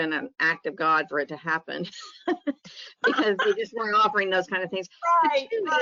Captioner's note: laughs